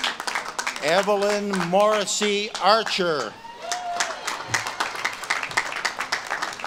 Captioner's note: audience claps and cheers